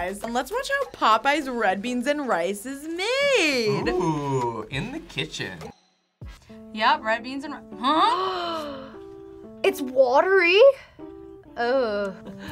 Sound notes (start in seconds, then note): 8.7 gasps